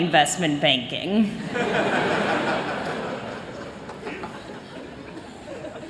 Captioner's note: laughter